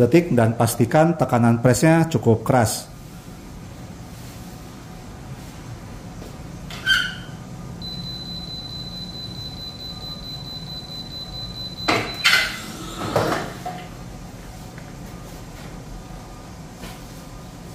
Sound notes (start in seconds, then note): 7.6 press machine noise; 7.8 beeping noise; 11.6 press machine noise